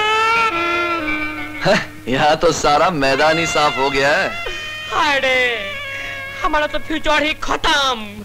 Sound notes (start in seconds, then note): 1.5 chuckles